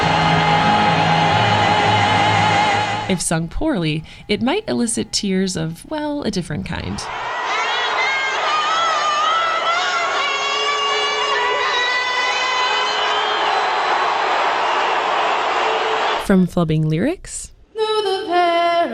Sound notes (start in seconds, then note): 7.3 singing lyrics from the national anthem; 14.0 crowd boos